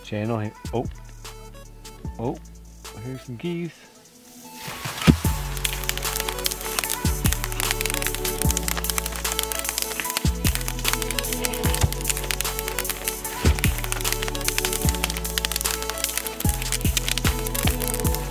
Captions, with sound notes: channel and, ohp, ohp, I hear some geese. (electronic music) (snapping twigs)